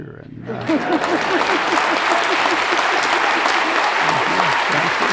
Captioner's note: everyone applauds